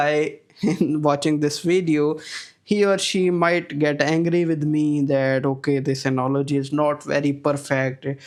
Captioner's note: chuckles